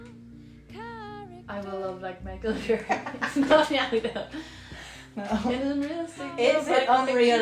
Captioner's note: laughter